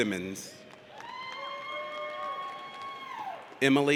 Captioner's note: audience cheers